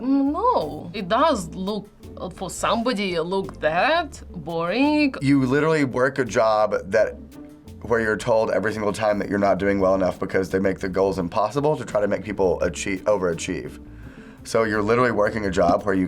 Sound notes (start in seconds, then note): none